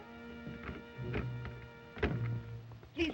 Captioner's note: ominous music; door unlocks & opens